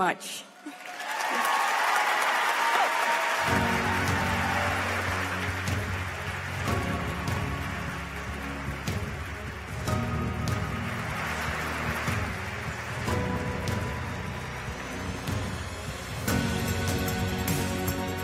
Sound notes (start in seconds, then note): 11.8 applause